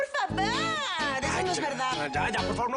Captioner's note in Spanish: Imitándola